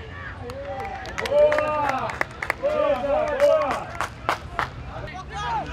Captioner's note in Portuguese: gritos de gol